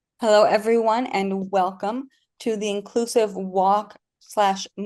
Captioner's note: habla en inglés